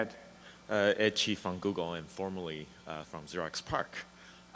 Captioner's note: voiceover